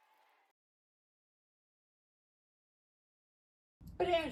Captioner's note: applause